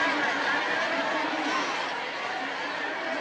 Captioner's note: crowd noises